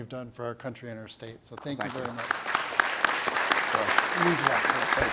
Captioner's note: audience applauds